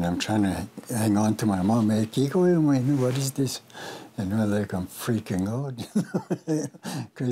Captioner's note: laughs